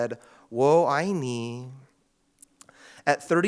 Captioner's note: speaks in Cantonese